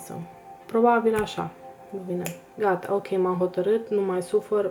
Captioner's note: snap